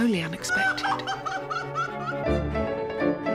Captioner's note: Mrs Bennet cries